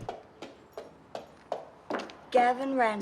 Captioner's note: footsteps approaching